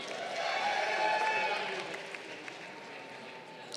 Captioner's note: crowd cheering